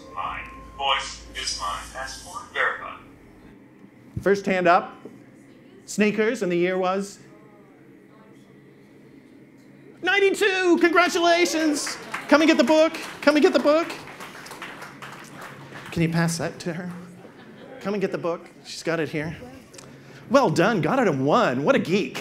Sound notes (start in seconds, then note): 7.4 audience member responds; 14.9 audience claps